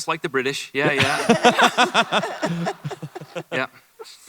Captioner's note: laughter